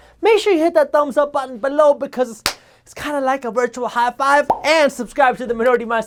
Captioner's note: clap